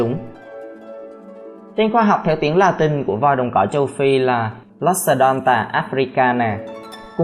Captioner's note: Latin